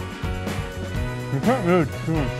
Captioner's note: speaking with mouth full